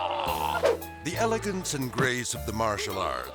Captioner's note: man groaning; air swoosh